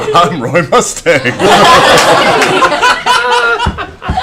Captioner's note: laughter